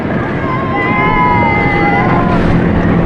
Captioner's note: cheheerers